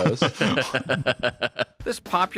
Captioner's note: laughs